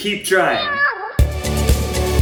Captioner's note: meow; upbeat music